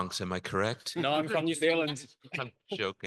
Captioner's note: panelists joking